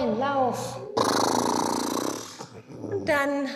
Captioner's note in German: prustet